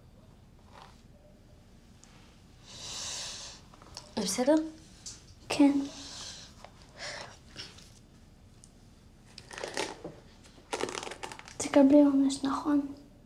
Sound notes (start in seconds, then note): 3.0 hisses